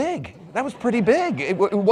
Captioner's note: audience laughs